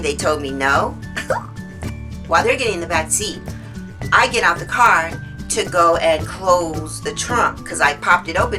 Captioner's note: laughs